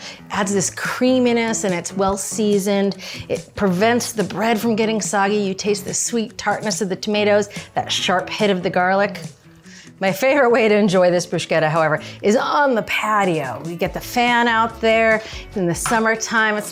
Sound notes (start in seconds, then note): none